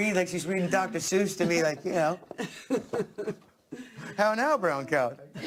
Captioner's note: laughter